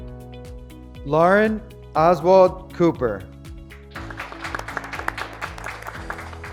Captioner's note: graduates clapping